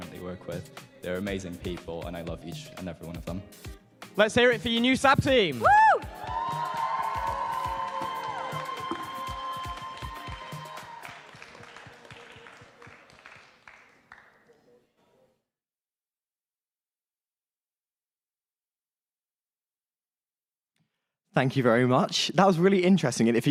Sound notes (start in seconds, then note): 7.3 applause